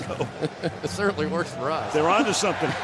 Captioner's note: laughs